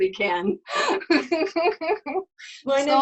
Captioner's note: laughing